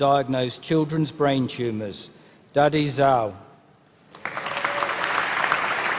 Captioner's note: applause